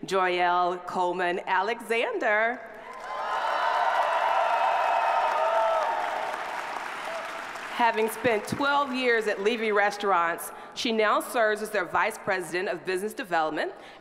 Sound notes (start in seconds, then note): 2.8 audience applauding